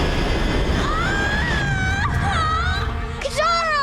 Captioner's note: screaming